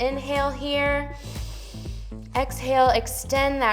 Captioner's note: inhales